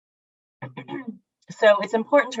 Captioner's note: clears throat